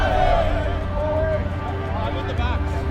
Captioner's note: sounds of rugby game